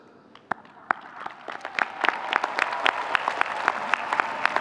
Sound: audience cheering

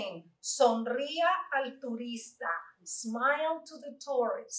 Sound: Spanish

